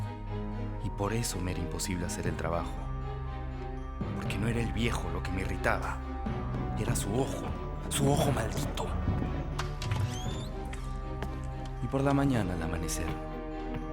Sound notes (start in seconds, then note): none